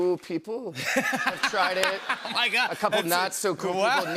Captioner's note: laughter